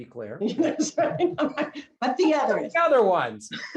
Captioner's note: laughs; laughter